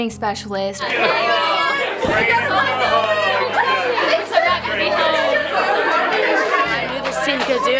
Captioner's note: crowd